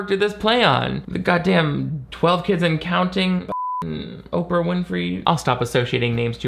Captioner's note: beep